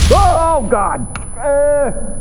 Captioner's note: high pitched ringing